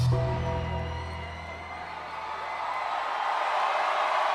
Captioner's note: audience cheers